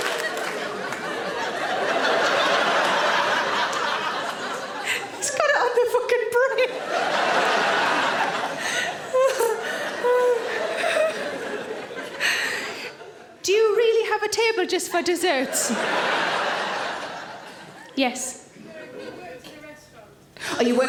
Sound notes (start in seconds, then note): 0.0 audience laughing; 9.4 laughs; 15.4 audience laughing